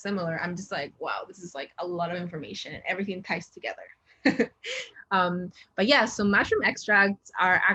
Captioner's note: chuckles